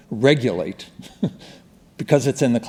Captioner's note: chuckling